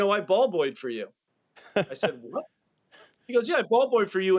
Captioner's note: laughter